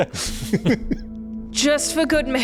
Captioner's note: laughs